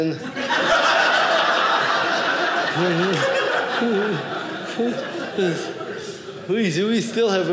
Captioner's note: audience laughing